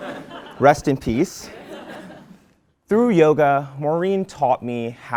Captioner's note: laugh